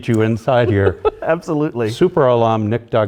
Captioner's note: laughter